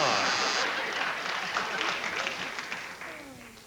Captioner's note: applause